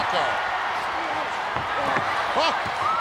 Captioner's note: audience cheering